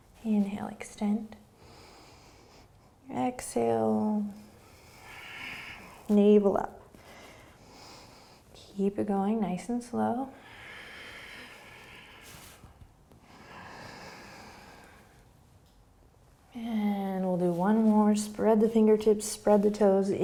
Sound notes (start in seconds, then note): 1.5 inhaling; 10.3 breathing